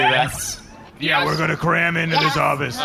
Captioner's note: robotically